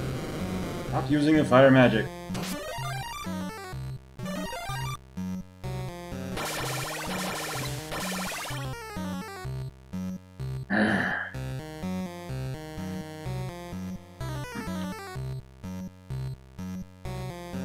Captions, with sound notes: Stop using the fire magic. [growls]